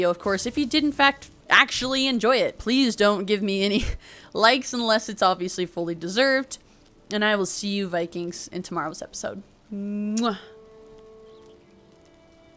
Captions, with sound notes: Of course, if you did in fact actually enjoy it. Please don't give me any likes unless it's obviously fully deserved and I will see you Vikings in tomorrow's episode. *kiss*